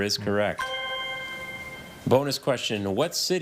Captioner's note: bell dings